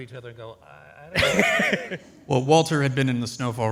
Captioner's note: soft laughter